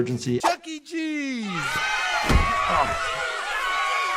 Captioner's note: kids cheer